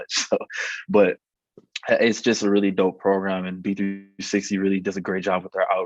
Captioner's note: laugh